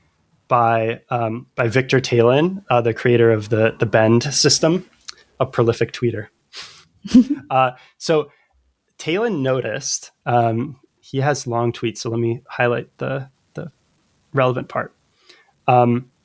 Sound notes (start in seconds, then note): 0.6 uh; 7.0 laughter